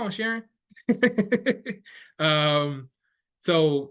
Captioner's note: laughing